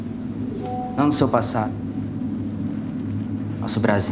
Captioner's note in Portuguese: Barulho de WhatsApp